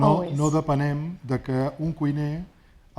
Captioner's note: speaking spanish